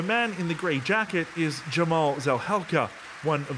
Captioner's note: applause